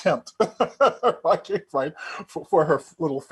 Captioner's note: chuckling